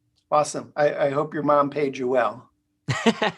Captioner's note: laughing